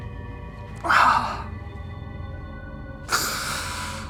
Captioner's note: sobbing